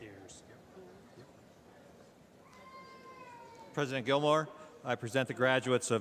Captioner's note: none